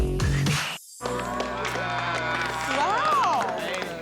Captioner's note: applause